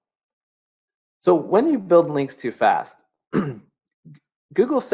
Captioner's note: clears throat